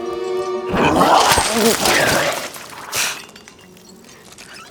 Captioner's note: vomit splashing